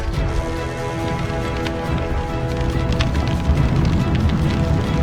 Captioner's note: flames whooshing